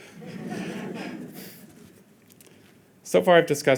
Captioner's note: audience chuckling